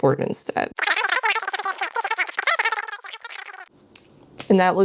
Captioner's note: cartoony jibberish noises